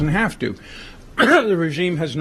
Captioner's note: coughs